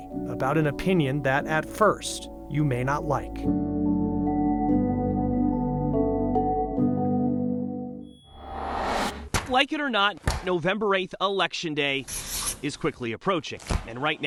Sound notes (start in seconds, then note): 3.6 gentle music; 8.2 logo whooshes